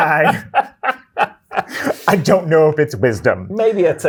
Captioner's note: guy laughing